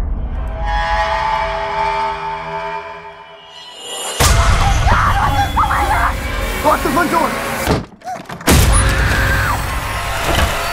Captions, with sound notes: (ominous music) (woman screams) Oh my God, oh my God! - Lock the front door. (Maya screams)